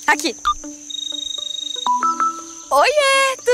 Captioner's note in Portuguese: Celular tocando